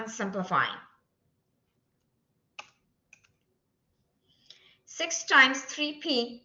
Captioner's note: silence